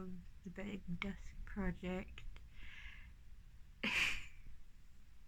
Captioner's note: laughs